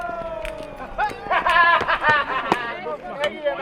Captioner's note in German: Haha!